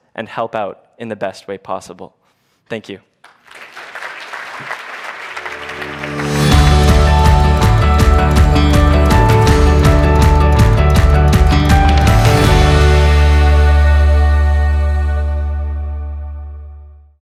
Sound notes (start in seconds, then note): 3.9 audience applauds; 6.2 upbeat music